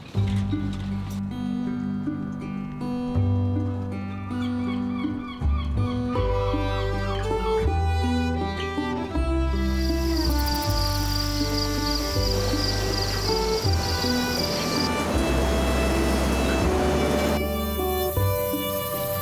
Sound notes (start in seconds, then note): 0.3 mellow music; 9.6 crickets chirping